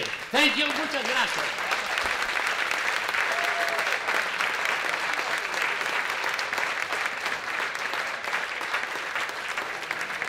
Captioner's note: applause